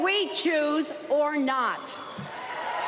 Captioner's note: applause